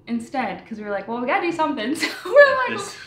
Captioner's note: laughs